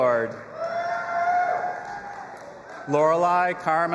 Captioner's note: audience applauding and cheering